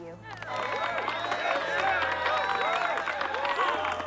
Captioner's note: audience cheering